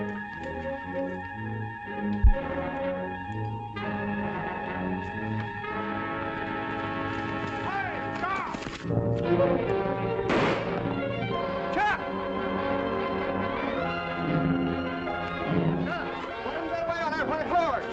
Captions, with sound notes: Hey, stop! [ GUNSHOT ] Hey! - What happened? - He ran away with our horse!